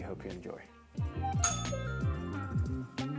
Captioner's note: bell rings